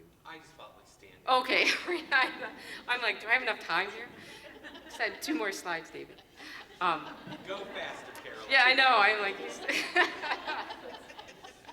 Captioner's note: laughing